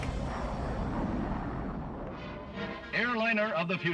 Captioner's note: jet engine roars